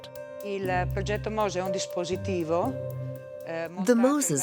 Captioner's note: Italian spoken audio